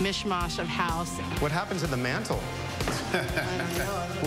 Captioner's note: laughs